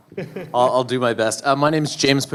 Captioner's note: voiceover